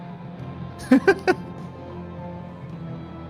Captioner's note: Joui laughs